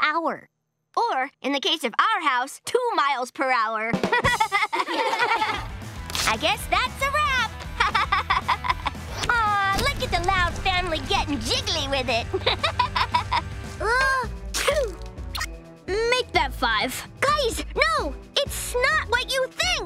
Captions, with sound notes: Or in the case of our house, two miles per hour. [laughing] I guess that's a rap. [laughing] Awe, look at the Loud family getting jiggly with it. [laughing] [sneezing] Make that five. Guys, no, it's snot what you think.